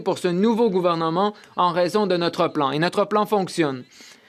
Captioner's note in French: voix de l'interprète